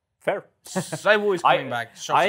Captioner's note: laughs